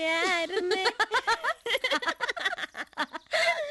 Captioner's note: laughing